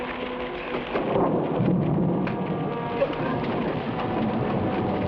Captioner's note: thunder rumbles